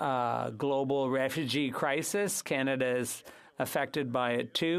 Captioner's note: speaking French